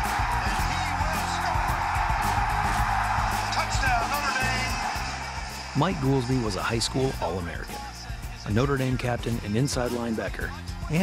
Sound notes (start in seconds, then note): 3.2 cheering continues